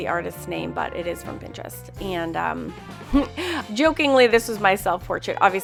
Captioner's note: laughs